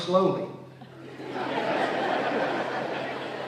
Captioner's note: laughter